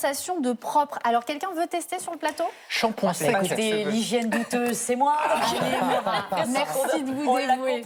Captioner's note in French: rires